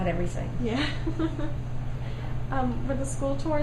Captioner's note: laughs